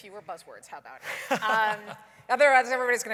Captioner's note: laughs